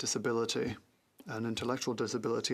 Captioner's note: french